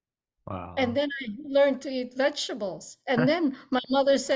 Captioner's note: laughs